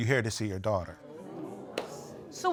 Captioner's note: audience exclaiming